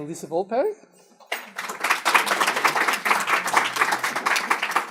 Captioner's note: applause